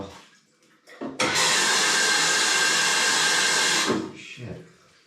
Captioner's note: tap pouring loudly